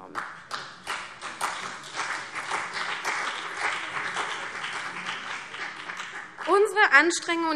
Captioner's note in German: Beifall CDU und vereinzelt BÜNDNIS 90/DIE GRÜNEN